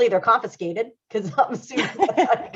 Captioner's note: laughter drowns out speaker